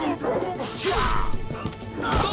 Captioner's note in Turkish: İnilti sesi